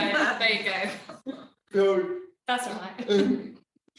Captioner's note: laughing; laughing